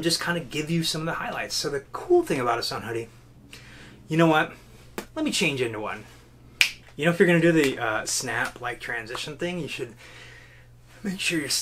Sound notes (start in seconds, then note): 6.6 fingers snap